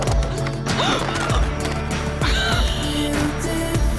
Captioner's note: person filming gasps, then laughs